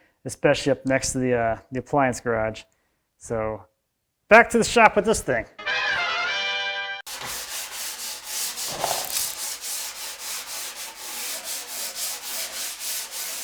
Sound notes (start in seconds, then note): 5.6 action music; 7.1 sandpaper scratching